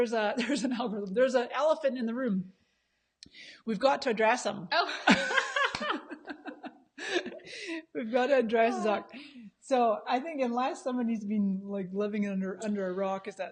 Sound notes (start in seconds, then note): 5.0 both laughing